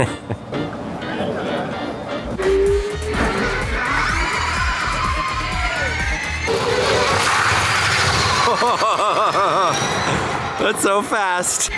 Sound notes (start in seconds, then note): 0.0 chuckles; 2.7 car whirring